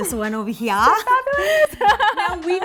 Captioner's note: laughing